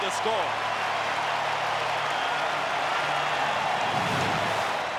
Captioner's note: applause; cheering and Applause